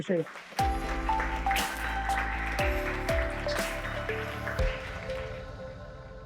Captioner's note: audience applauding; lively music